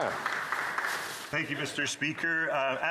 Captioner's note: applause